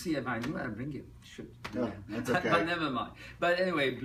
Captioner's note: laughs